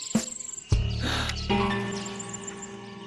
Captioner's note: gasps